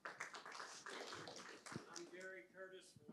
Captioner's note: audience applauds